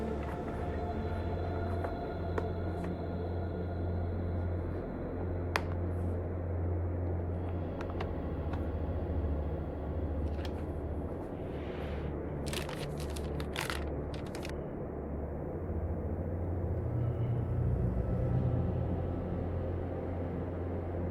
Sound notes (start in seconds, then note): 5.1 latch clicks; 12.4 packets crinkling; 17.1 soft tense music continues